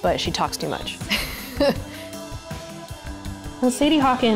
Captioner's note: laughs